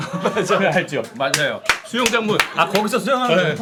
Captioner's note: gulp